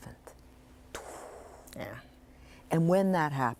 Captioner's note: exhales deeply